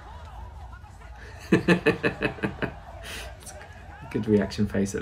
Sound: laughs unsympathetically

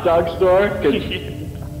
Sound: laughing

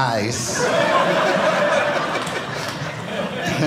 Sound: audience laughing

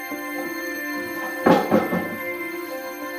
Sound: thud

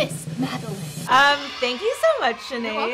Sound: cheering

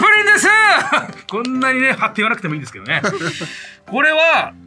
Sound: laughs

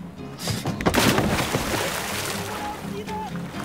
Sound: splashing

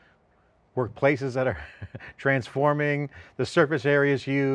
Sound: laughs

